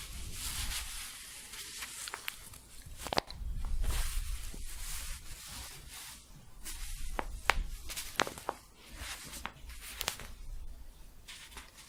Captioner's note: staticky shuffling and crinkling